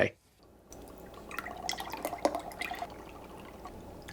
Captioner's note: liquid gurgling